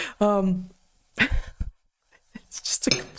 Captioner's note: laughs